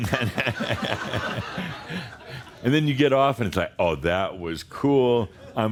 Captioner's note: laughter